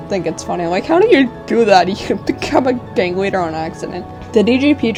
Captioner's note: laugh